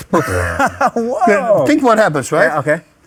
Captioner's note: laughs